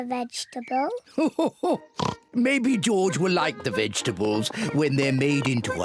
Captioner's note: laughs